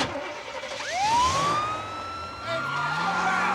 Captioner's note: siren wailing